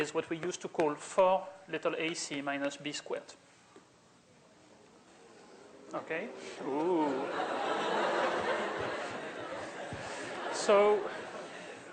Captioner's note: laughter